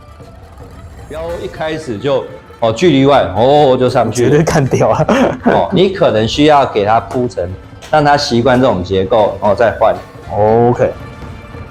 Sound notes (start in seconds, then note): 4.1 laughs